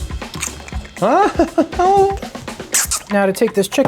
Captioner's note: laughing